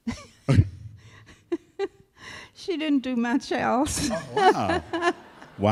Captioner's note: laughs